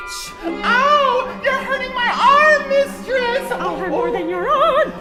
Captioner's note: client in falsetto